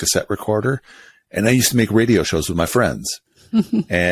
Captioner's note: laughs